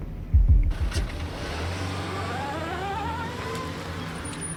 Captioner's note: engine revving